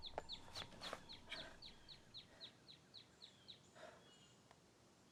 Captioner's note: Donna breathing heavily